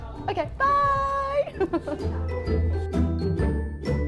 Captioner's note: laughs; light bouncy music